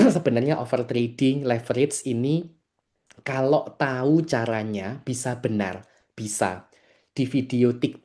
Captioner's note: berdehem